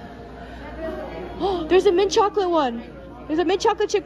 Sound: gasp

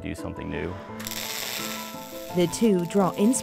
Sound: electric static

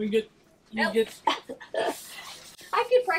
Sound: chuckles

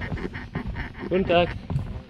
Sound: German

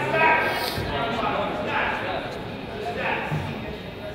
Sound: coach yells

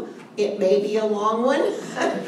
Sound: laughter

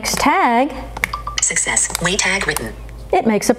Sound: computerized Voice

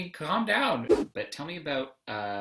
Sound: whoosh

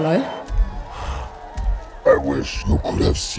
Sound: panting

